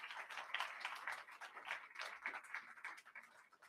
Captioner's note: crowd applauding